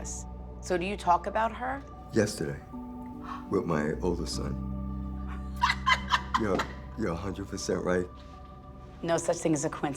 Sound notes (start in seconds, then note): 5.3 Theresa laughing